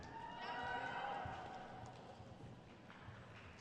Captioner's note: crowd cheers